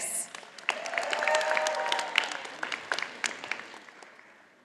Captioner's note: audience applauding